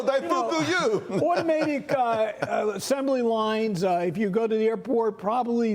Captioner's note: laughter